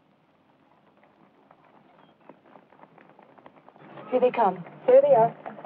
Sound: running feet

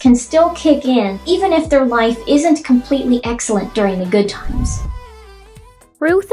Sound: swoosh

